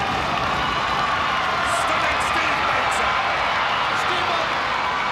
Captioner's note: crowd cheering